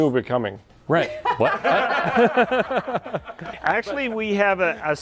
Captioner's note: group laughing